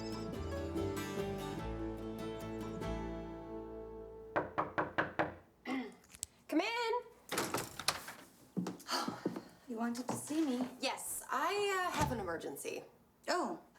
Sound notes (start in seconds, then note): 4.4 knocking